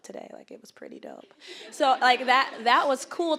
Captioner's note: audience laughing